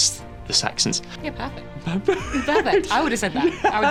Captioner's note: laughs